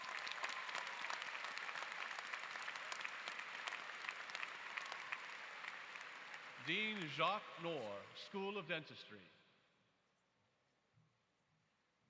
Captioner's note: applause